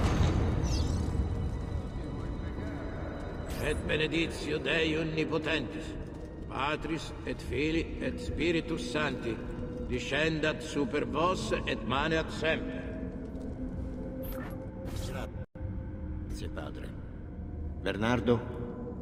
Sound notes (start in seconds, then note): 3.6 continues a sermon in Latin